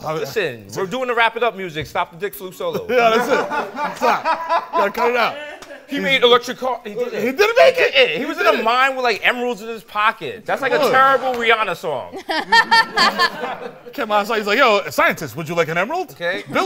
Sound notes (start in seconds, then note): 12.1 laughing